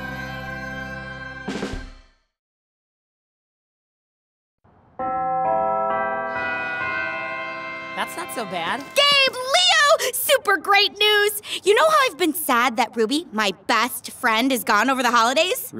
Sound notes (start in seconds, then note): 5.0 bells chime